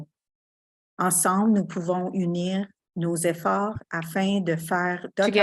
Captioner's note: speaking French